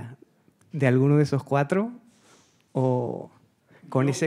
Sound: speaking Spanish

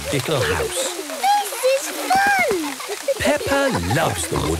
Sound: laughter

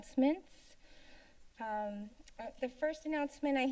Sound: silence

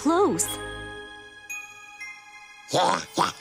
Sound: sparkling tone

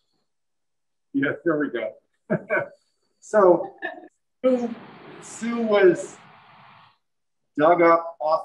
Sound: laughs

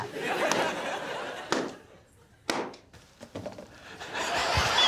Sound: audience laughing; balloons popping; audience laughing; Alan chuckling

